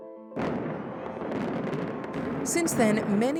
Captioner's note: explosions